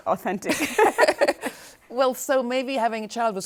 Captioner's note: both laughing